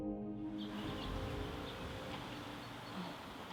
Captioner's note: bird chirping